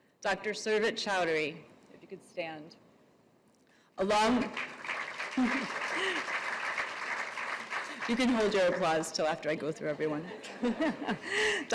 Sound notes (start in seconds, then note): 4.2 applause; 10.3 audience laughs